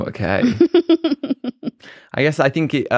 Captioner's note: laughs